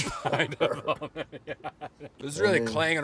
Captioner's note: laughing